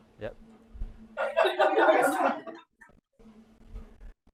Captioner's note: laughter